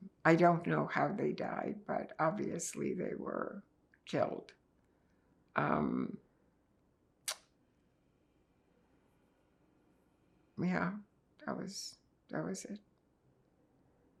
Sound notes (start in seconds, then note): 6.2 pauses 6 seconds